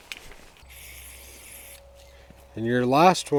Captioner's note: paint spraying sound